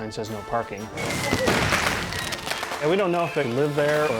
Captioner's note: fireworks popping